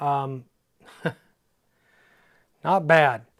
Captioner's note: laughs